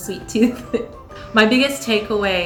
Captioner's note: laughs